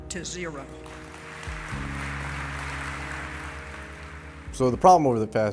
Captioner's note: audience applauds